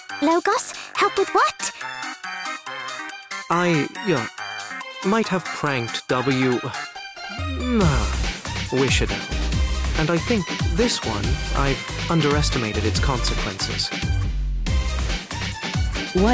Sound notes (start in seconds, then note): 7.3 coughs